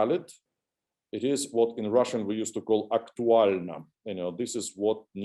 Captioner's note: russian